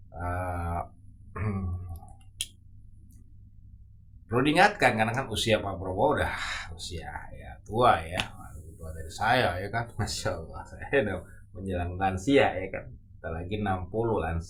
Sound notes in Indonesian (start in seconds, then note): 6.8 menghela napas